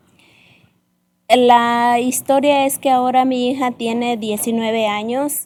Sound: speaking spanish

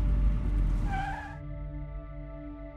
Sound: car halts; pensive music playing

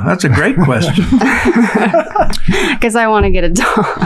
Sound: all laughing

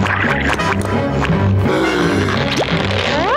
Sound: gasping

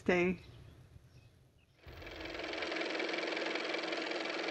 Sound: car motor

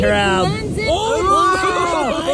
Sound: everyone yelling

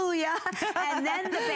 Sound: laughter

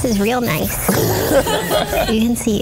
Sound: laughs

